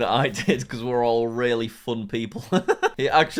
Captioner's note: laughs